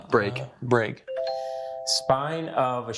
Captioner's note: buzzer chimes